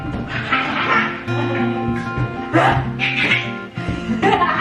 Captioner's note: laughing